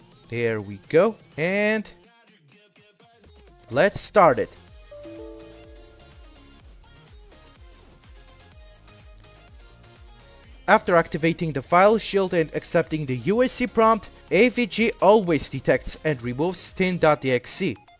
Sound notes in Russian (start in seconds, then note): 5.0 Звук ошибки Windows 10